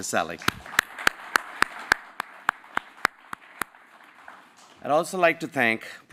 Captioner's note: applause